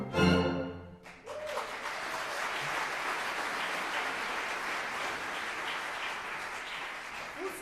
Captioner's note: applause